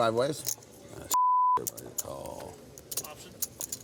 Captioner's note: beep